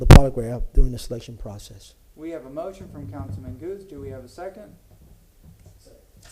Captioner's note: ~distortion~